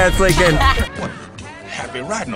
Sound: laughing

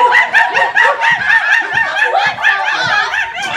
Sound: monkey noises

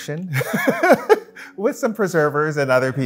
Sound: laughing

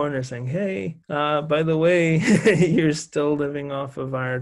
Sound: laughs

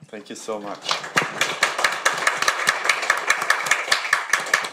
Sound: audience clapping

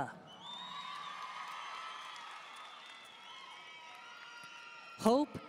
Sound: audience cheering and applauding

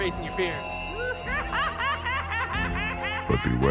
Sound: maniacal laugh

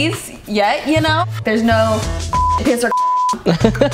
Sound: beep; laughs

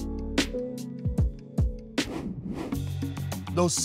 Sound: air whooshing

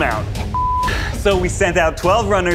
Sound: beeping

